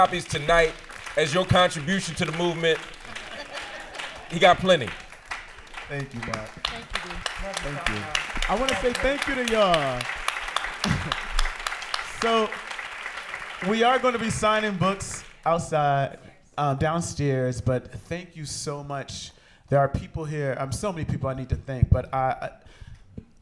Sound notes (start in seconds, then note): 3.0 laughter; 8.1 applause